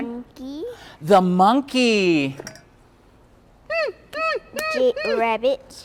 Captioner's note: monkey noise